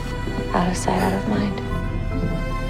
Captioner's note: voiceover